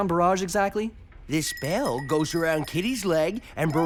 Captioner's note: bell tinkles